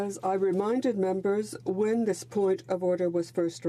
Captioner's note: speaking in French